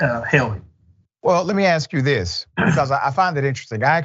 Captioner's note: cough